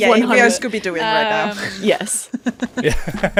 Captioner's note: laughter; laughs